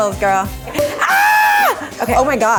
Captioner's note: cork pops and screams